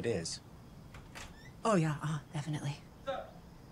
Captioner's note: door creaks